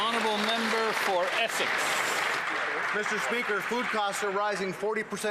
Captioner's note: some Applause